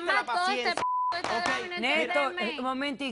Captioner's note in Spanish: Bip